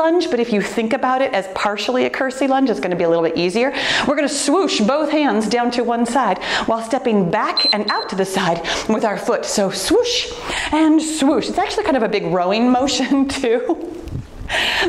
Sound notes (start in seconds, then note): 7.5 timer beeps